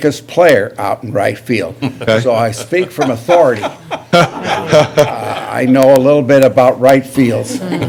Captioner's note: laughter